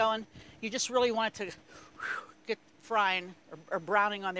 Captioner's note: air whooshes